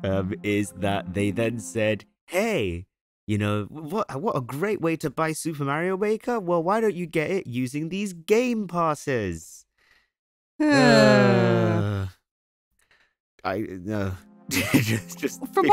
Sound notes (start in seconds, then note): 10.6 both groan loudly; 14.5 laughs